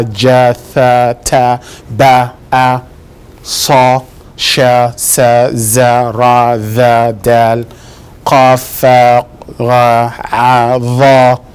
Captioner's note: sounding out Arabic letters out loud